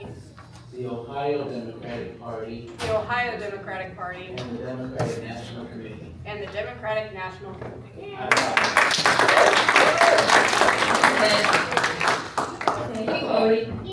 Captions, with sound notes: The Ohio Democratic Party. The Ohio Democratic Party. And the Democratic National Committee. And the Democratic National Committee. [applause] Thank you, Lori.